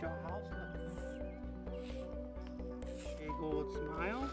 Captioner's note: chalk scraping